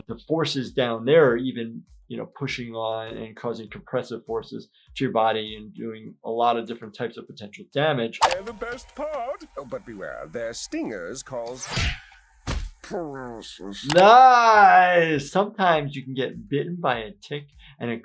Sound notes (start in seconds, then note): 12.4 stinger landing, body thudding